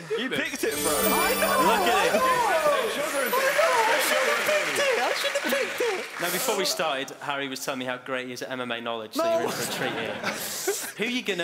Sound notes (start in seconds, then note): 0.6 chiming